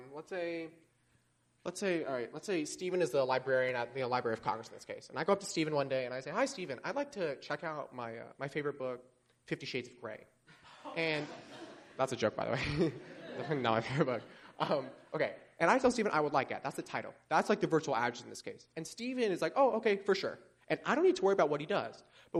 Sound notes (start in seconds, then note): 10.6 laughter